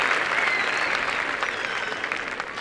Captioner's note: applause and cheering